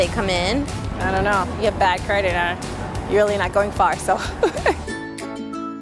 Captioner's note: laughs